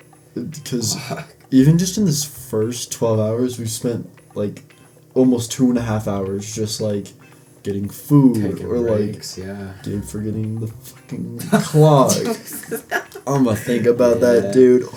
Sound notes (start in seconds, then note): 12.0 laughter